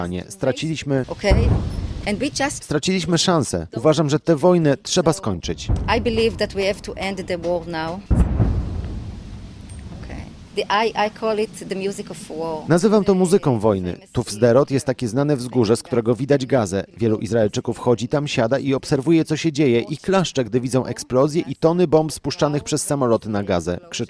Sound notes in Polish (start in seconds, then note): 1.1 eksplozja; 7.7 eksplozje w oddali